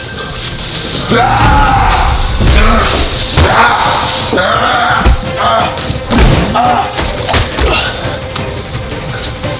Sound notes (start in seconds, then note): 1.0 grunting